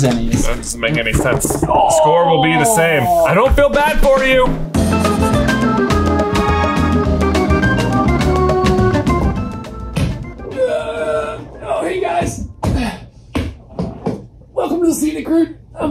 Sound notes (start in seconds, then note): 2.0 groans; 4.1 upbeat music